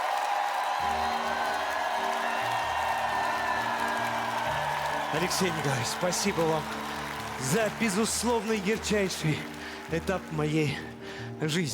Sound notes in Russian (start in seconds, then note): 5.0 аплодисменты; 5.0 ликование